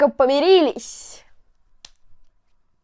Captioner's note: clap